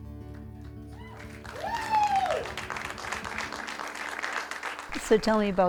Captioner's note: applause